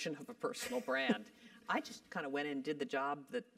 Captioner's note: laugh